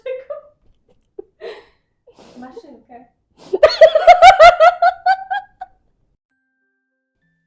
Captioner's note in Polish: śmiech